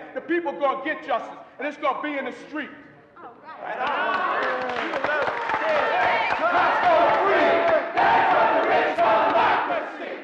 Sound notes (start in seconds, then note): 3.8 applause; 5.6 crowd chanting